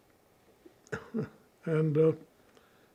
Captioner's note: laughing